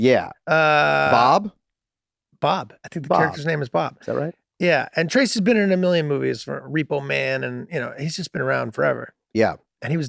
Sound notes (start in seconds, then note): none